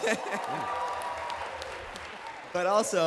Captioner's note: applause